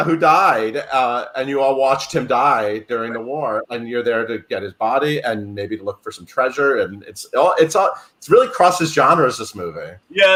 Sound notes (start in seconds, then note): none